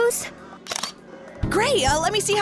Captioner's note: camera snap